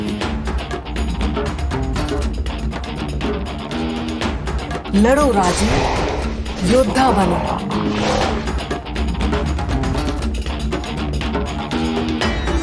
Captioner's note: speaking foreign language